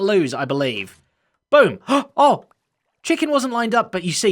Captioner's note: gasps